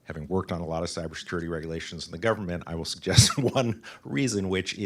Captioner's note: laughs